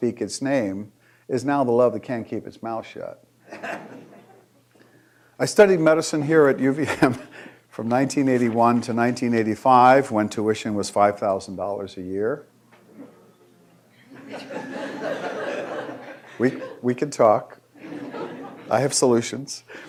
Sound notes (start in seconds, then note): 14.0 audience laughing